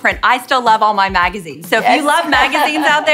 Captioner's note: laughing